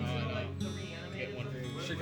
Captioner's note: chatter